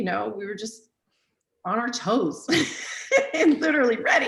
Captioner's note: laughs